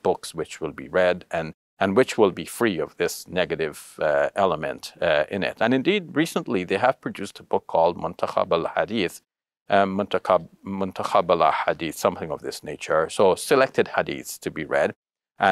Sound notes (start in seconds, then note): 7.9 speaks Arabic